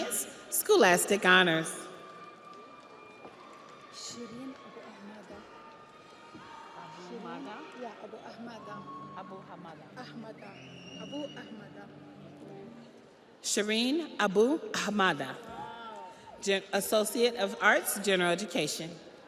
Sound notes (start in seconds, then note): 7.4 audience applauds; 7.4 audience cheers